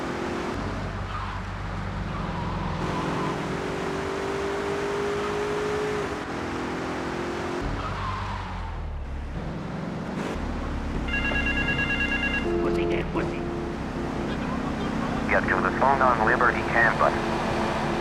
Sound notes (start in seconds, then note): 0.0 car engine roaring; 0.7 phone ringing